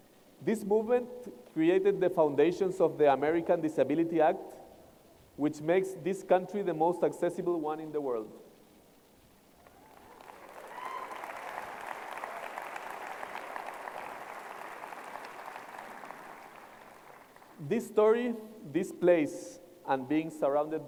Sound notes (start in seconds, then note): 9.6 applause